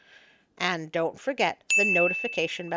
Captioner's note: ding!